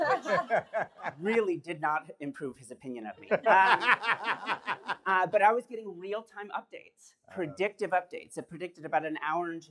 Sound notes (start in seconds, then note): 3.3 laughter